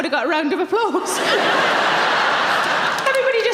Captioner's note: audience laughing